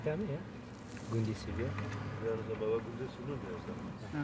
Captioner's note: speaking foreign language